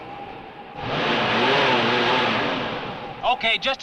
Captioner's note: engine revving